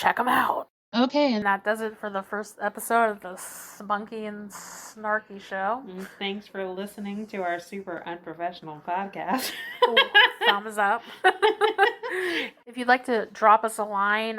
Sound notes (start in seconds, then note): 10.9 laughs